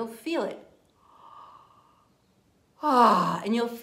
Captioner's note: inhaling and exhaling